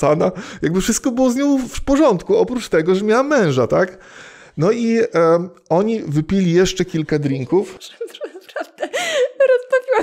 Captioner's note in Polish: śmiech